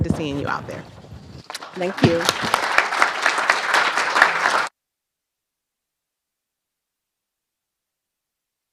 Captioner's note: applause